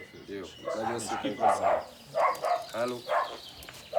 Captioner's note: speaking in foreign language; dogs barking